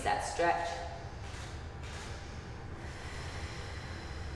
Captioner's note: breathing